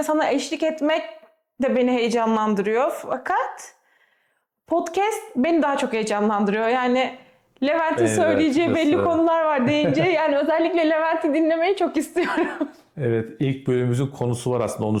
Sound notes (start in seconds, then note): 9.5 laughter